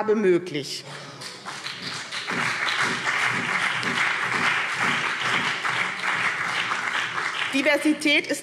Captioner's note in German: Beifall BÜNDNIS 90/DIE GRÜNEN und vereinzelt CDU